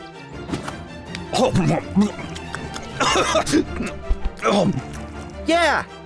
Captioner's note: eating, then coughing